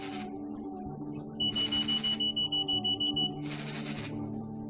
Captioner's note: phone alarm ringing and vibrating loudly